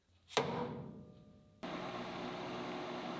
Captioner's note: hammer taps machine; machine motor hums